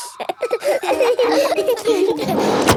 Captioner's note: all laughing